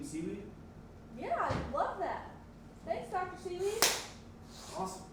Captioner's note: clapping sound